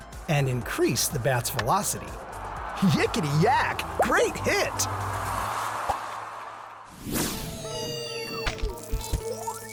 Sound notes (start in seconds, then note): 5.7 crowd roars; 7.0 air whoosh